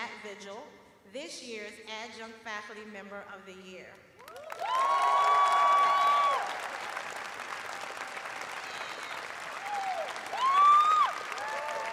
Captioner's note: cheers and applause